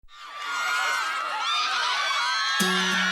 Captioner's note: cheering; screaming; lively music